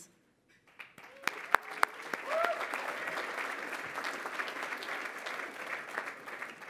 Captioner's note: applause